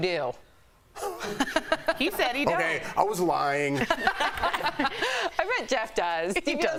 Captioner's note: laughter